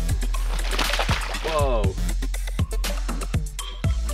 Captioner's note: splashing